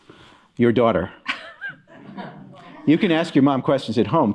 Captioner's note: laughter